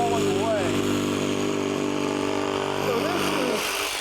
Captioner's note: saw whirring